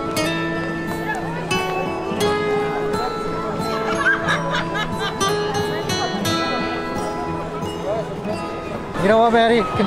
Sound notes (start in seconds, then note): 3.8 woman laughs